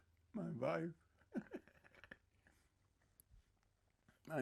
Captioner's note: laughing